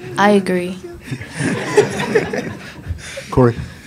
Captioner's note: reporters laugh